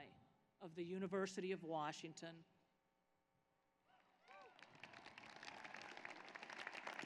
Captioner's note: applause